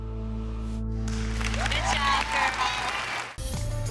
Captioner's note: audience applauding